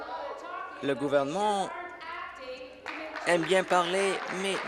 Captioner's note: applause